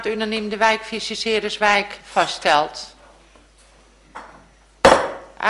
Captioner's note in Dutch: voorzitter klopt met hamer